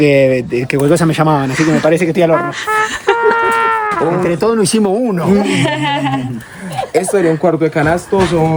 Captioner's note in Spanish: risas